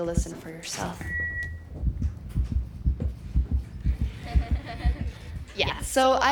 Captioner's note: heart beating fast